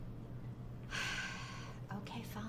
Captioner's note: sighs